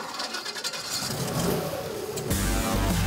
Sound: rock music; motor roaring

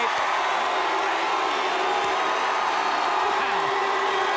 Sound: some audience members boo

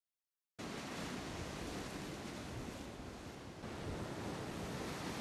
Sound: ocean surf roaring

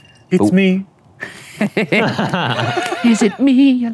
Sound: both laugh

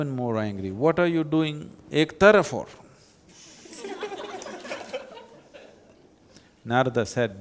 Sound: laughter

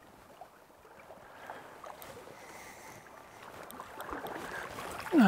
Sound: water rippling

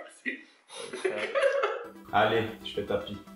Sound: laughing

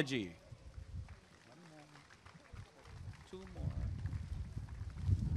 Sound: applause and cheering

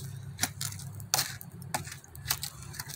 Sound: stick digging in the fire pit

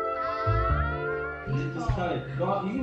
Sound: uncertain groaning

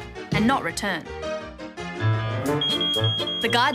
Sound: beeping

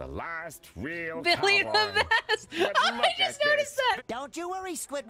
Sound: laughing

